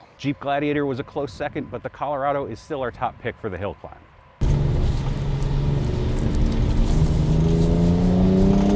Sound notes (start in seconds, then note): 4.4 engine whirring